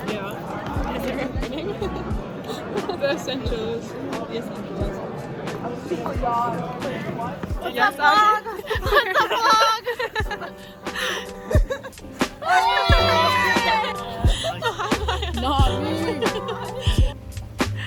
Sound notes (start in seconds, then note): 1.4 laughs; 10.1 everyone laughs; 12.3 group cheers